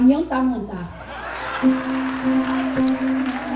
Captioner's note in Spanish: Aplausos, música